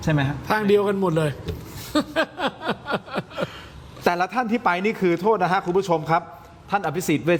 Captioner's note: laughter